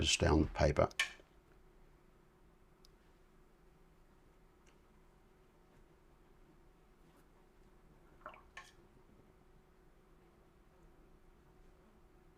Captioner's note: silence